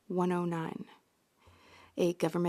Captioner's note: speaking French